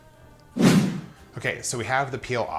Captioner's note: swooshing